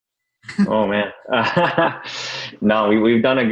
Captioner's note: laughs